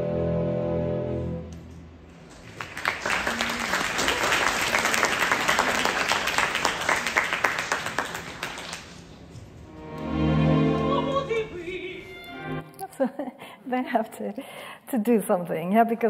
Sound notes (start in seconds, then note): 2.2 audience applauding; 9.6 lush music